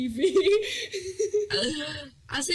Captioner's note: chuckling